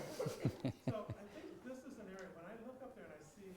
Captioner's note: laughter